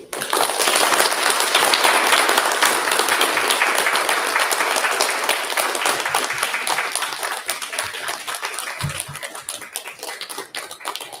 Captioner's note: applause